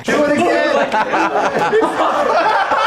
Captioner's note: laughs